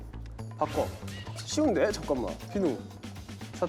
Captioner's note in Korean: 샤샥